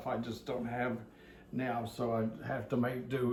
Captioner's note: none